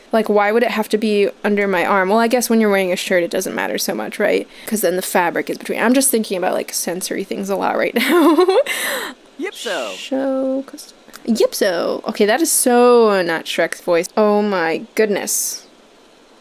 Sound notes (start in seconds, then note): 8.0 chuckles